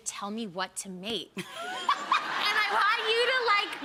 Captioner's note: Rachael and audience laughing